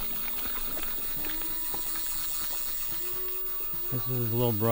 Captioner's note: reel winding